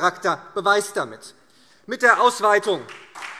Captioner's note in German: Beifall SPD